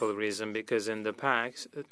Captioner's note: speaking French